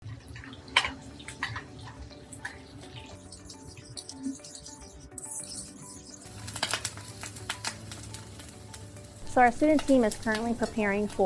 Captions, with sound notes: (spoon scraping) (whisking) (pan sizzling) - So our student team is currently preparing